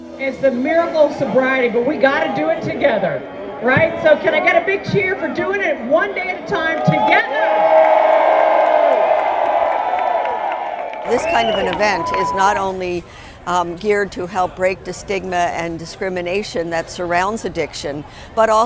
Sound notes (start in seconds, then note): 6.1 cheering